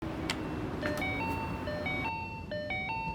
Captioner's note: intercom Chime